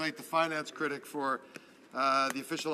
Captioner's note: speaking French